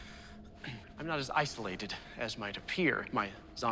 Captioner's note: clears throat